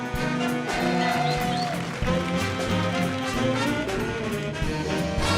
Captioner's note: audience cheering